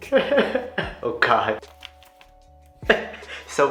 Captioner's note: laughs